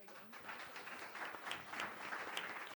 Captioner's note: students applauding